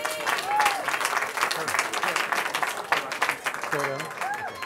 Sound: cheering

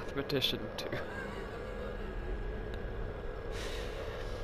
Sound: laughs

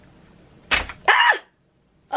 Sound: clack

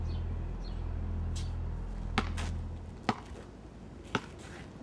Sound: ball thuds

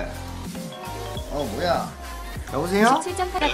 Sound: he has a phone alarm going off on his cell phone

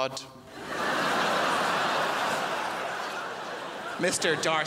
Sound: crowd laughs

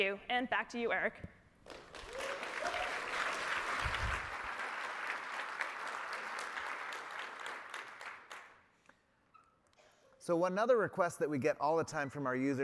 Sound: applause

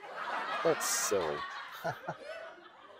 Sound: chuckles

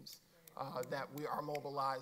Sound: snapping

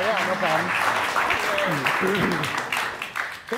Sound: audience clapping

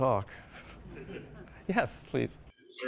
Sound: audience laughs

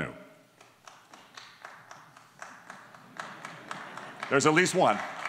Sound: single person clapping

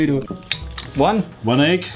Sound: bright jazzy music; egg cracking

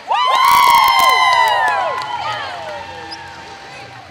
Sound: cheering

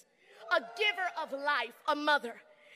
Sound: crowd cheering

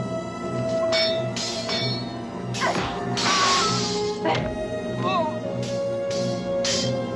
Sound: clinking; yelling; grunting; clinking; clinking; yelling

